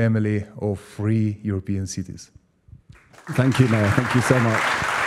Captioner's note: applause